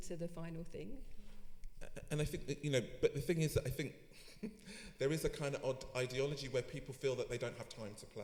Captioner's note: laughs